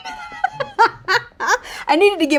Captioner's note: Raven-Symone laughing